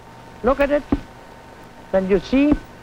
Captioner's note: tapping